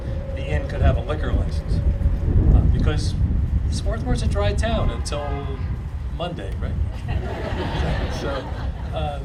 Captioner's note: audience laughing